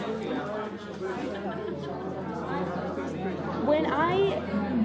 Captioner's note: all chattering